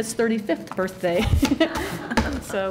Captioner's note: laughter